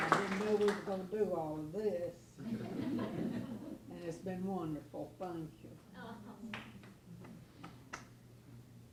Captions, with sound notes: I didn't know we were gonna do all of this. (laughing) And it's been wonderful. Thank you.